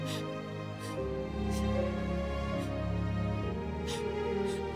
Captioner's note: Eliza sobbing